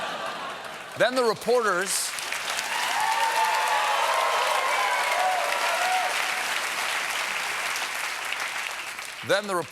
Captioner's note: applause